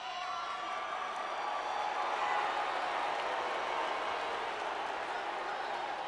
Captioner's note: crowd cheers and boos